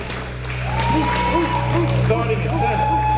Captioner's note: audience applauding and cheering